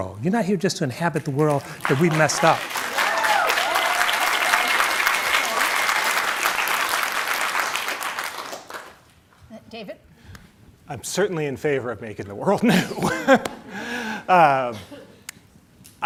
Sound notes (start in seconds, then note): 1.4 audience cheers and applauds; 12.7 laughs